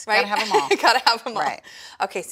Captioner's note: laughs